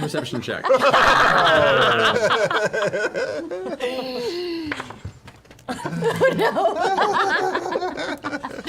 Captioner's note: groans; laughs